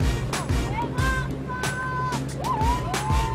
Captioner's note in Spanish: Gritos y exclamaciones